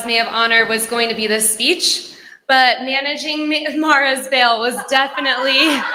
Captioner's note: laughter